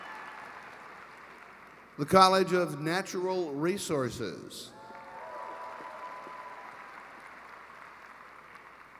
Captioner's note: cheering and applause